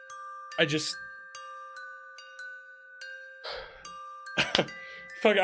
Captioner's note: sighs